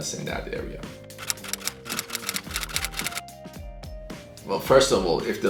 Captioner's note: keyboard keys clicking